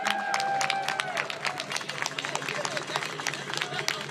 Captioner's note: cheers and applause